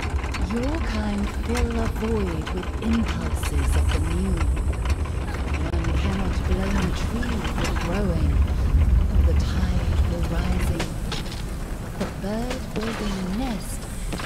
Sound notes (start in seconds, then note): 0.1 rumbling, clattering; 3.2 rumbling, clattering, Anne gasps; 8.6 rumbling, junk falling